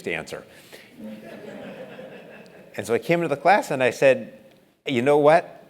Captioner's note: laugh